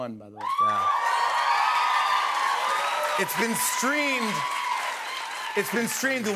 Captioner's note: cheers and applause